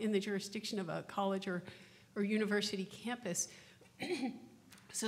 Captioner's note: coughs